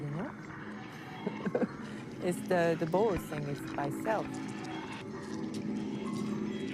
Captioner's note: laughing